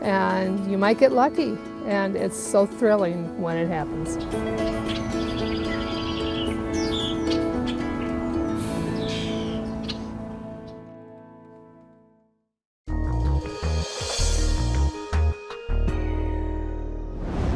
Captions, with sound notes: and you might get lucky. And it's so thrilling when it happens. (bright music) (birds chirping) (upbeat music)